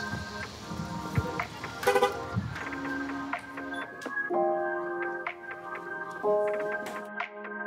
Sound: car alarm beeps

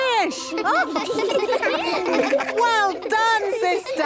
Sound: children laughing

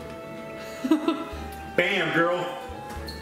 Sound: laughs

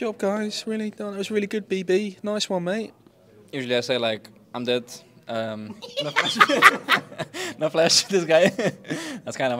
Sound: laughs

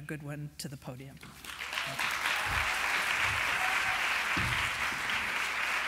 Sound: applause

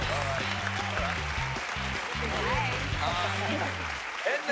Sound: cheers and applause

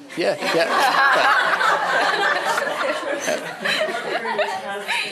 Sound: laughter

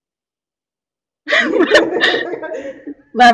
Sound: giggling sounds

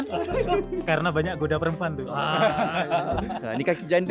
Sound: laugh

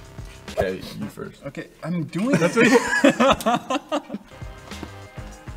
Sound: all three laugh again

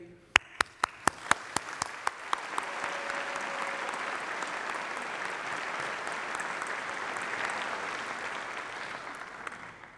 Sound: applause

